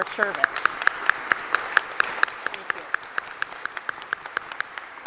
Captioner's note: audience applauds